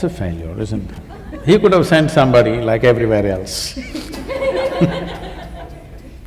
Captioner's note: laughter